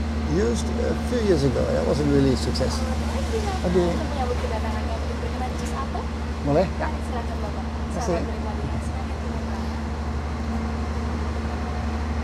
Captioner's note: foreign language